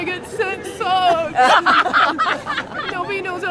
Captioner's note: laughter